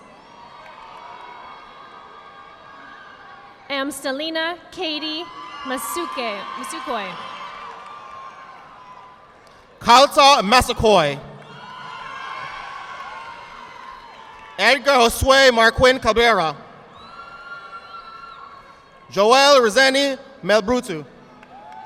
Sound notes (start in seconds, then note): 0.1 audience applauding; 6.9 audience applauding; 11.3 audience applauding; 17.2 audience applauding; 21.3 audience applauding